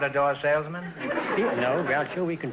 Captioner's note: audience laughter